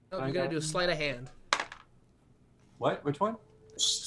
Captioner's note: dice roll